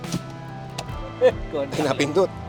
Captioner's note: laughs